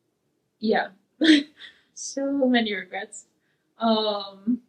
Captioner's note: laughs